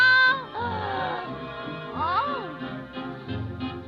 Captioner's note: gasping